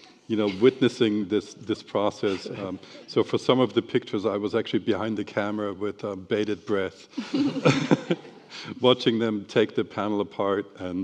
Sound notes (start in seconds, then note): 7.2 panelists and attendees laughing